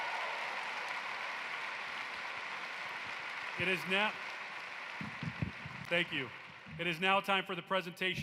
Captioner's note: cheering and applause